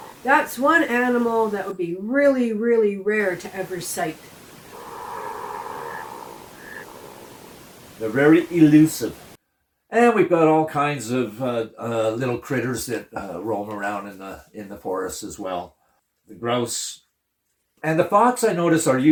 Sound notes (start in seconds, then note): 4.7 cat growl